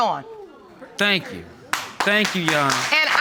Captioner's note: applause